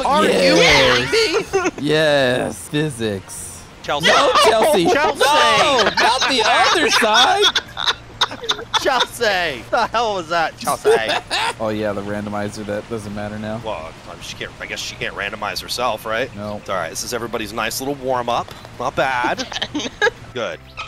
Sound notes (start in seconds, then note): 7.8 laughter; 11.1 laughter